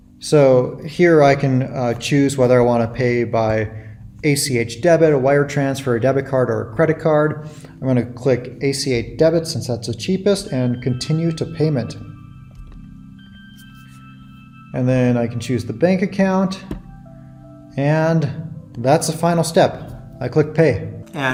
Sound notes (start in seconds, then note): none